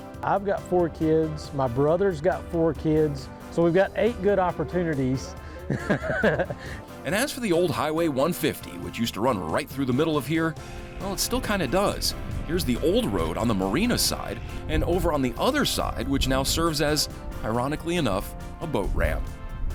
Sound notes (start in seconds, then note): 5.6 laughs